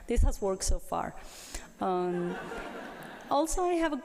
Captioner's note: laughter